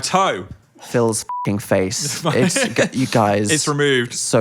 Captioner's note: beep